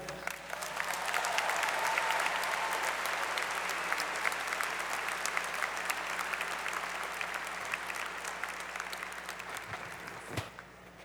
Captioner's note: applause